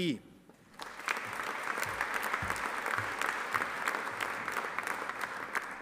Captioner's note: audience applauding